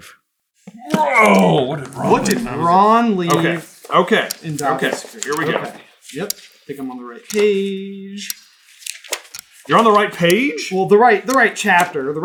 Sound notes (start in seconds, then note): 1.8 groan of moving a 1,000 pound timer